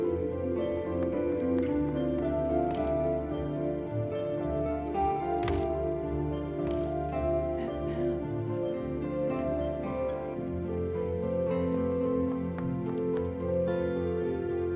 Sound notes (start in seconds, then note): 0.2 upbeat music continues; 5.4 closest door shuts; 7.6 sister clears throat; 11.0 upbeat music continues